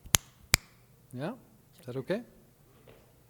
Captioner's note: fingers snapping